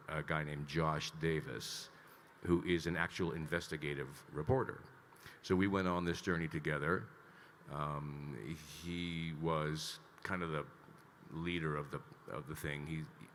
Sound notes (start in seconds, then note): none